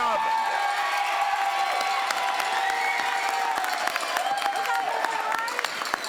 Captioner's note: crowd cheers and applauds